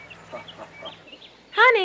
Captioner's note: chuckles